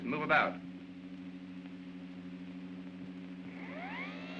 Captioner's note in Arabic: همهمة ناعمة; صوت آلية الباب